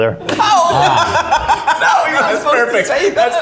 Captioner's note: laughs